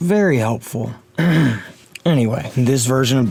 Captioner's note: eh hem